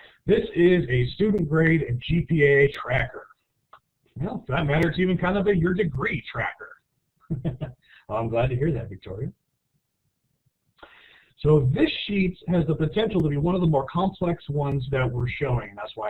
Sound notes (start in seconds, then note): 7.3 laughs